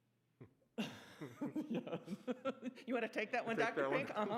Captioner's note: laughing